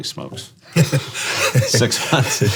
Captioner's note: laughing